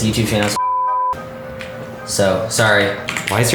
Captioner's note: beep